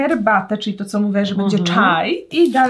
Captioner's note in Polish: rosyjski